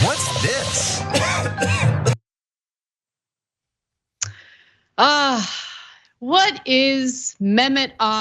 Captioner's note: cough